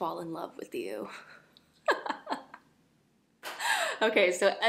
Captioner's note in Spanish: risas